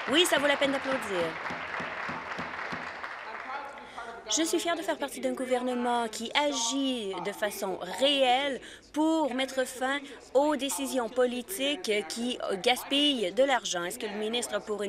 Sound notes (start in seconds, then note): 3.4 applause